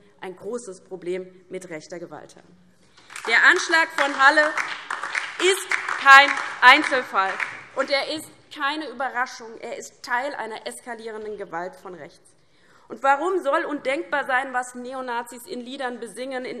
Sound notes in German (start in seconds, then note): 2.9 Beifall DIE LINKE, vereinzelt BÜNDNIS 90/DIE GRÜNEN und SPD